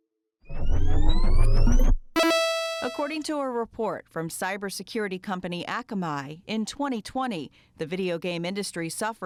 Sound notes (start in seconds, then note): 0.5 electronic whirring; 2.2 electronic chiming